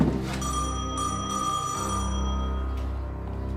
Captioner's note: door bell rings